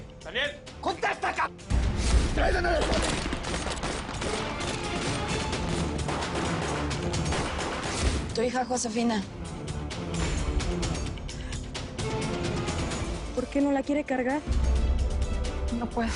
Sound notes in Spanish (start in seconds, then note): 2.8 Disparos